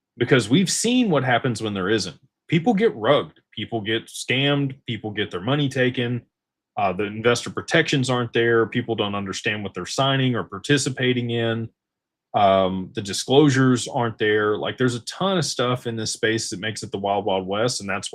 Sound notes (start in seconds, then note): none